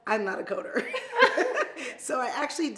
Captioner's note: women laugh